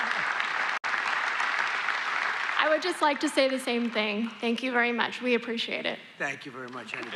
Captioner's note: applause